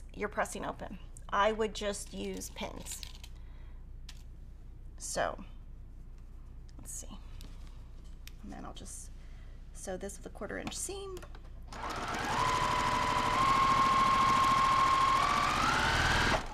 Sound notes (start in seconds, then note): 11.6 sewing machine whirling